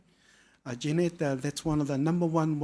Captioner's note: speaking foreign language